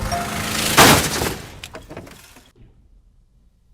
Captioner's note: metal crunches